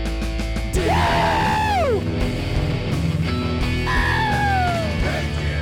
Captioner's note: both screaming